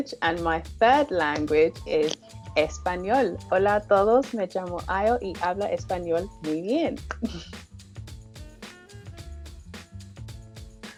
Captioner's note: speaking spanish